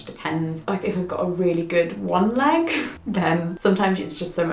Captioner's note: laughs